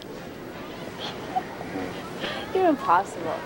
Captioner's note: Krissie giggles